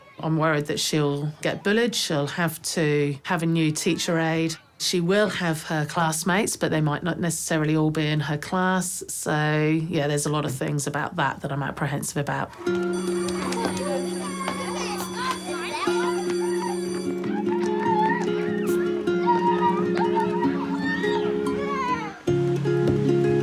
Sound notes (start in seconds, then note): 12.6 bell rings; 14.9 excited chatter; 16.9 pensive music